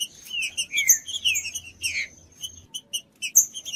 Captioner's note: trinca ferro cantando